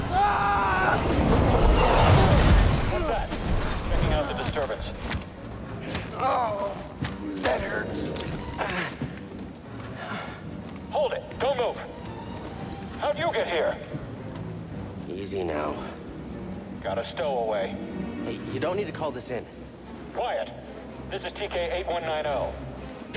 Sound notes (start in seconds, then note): 6.1 groan